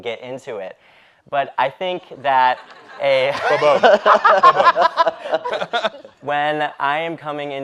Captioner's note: all laughing